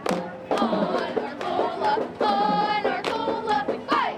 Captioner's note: cheerleaders cheering